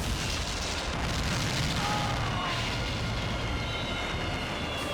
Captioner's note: fireworks exploding